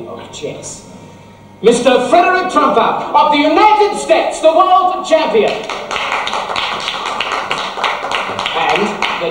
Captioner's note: applause